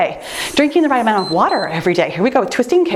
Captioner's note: timer beeps